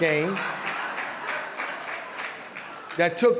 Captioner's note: audience laughing and applauding